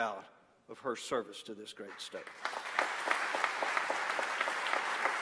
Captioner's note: applause